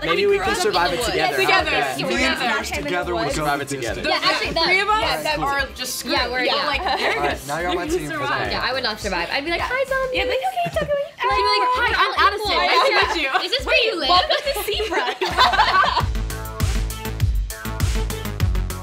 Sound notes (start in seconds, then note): 11.4 hums excitedly; 15.3 laughs; 16.2 upbeat music